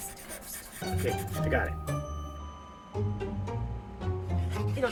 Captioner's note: scratching sounds